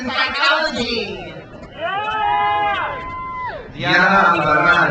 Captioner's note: crowd cheers